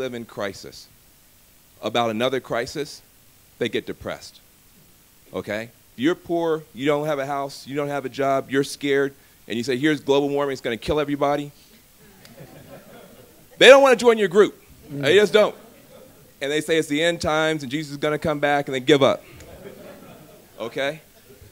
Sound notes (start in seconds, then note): 12.0 laughter; 19.2 laughter